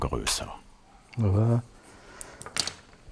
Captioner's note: quietly